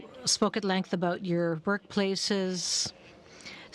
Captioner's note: speaking French